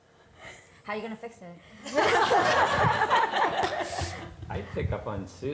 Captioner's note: audience laughter